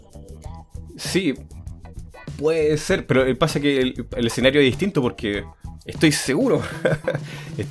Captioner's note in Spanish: risas